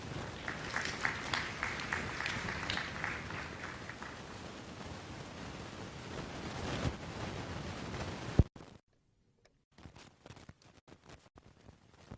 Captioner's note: applause